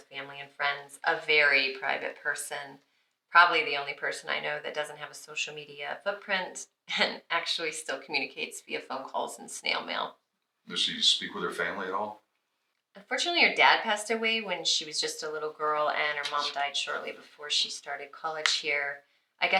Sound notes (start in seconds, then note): none